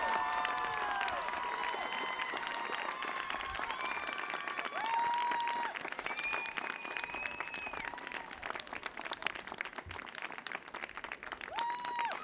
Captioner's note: applause